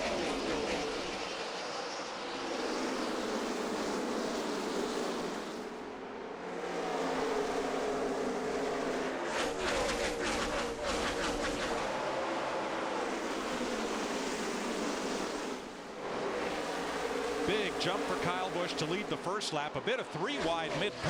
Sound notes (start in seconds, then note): 5.0 engines roar